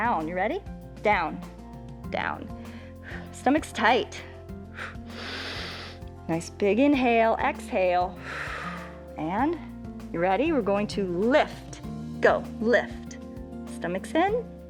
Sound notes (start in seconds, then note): 4.6 inhales; 8.2 exhales